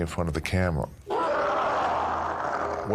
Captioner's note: roars